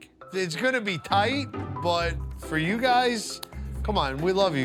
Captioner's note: hands tap